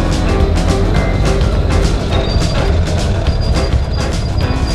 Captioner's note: laughing